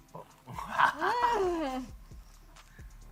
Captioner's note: laughs